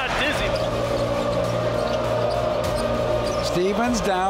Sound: crowd roaring

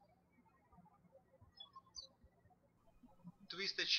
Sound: birds chirping

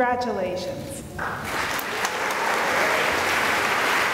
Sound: applause

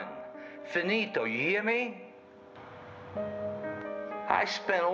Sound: speaks in foreign language

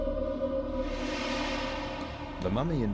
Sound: eerie whooshing

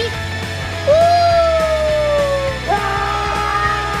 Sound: cheering; screaming

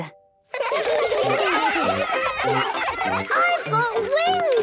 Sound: excited laughter

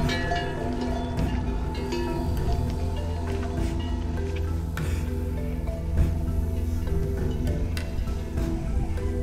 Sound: cow bell

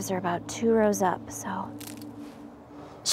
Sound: snap

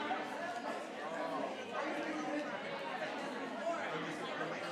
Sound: people chattering continues

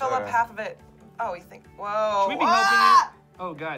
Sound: shouting

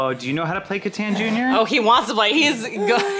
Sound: baby noises

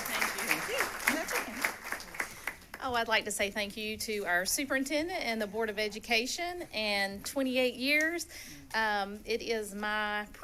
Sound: applause

